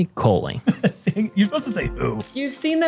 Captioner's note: laughs